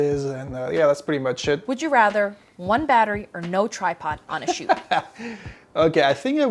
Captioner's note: laughs